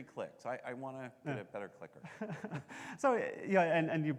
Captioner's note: laughing